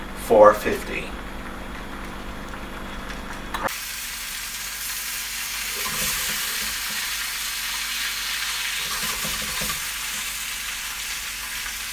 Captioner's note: potatoes sizzling sound